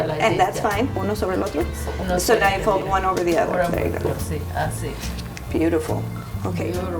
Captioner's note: speaks in Spanish